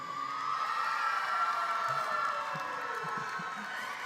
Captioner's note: cheering